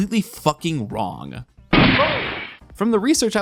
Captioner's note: gunshot